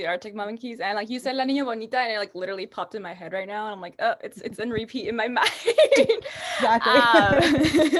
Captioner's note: laughs